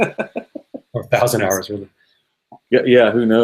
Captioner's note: laughing